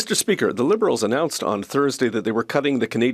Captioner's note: speaking French